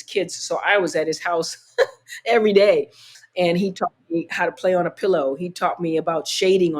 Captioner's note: laughter